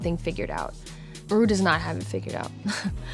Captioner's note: chuckles